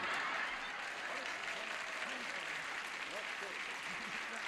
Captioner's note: applause